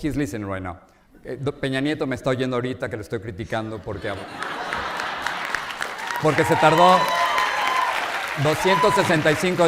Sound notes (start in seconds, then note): 1.8 speaking in Spanish; 5.8 audience laughs